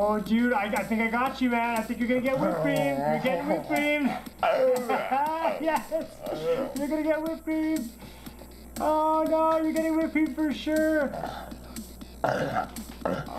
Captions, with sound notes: Oh dude I think I got you man, I think you're gonna get whip cream! You're getting whip cream! *laughing* haha, yes, you're going to get whip cream! Oh god you're getting whip cream for sure!